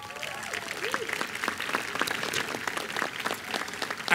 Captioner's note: applause